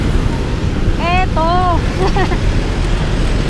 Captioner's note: laughs